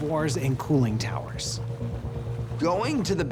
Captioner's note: water sloshing